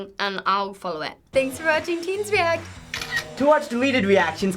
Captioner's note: camera snaps